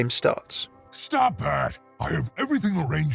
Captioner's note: voiceover